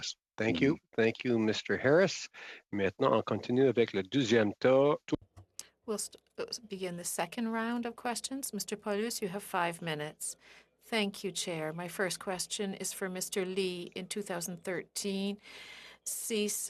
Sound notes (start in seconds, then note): 5.8 speaking French